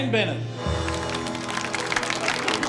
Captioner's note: applause